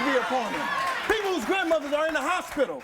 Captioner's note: audience cheers